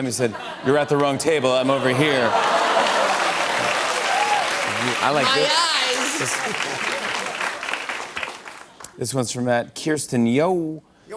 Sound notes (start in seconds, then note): 2.5 laughter and applause